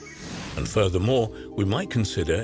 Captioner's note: air wooshing